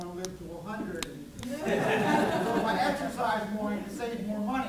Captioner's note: laughs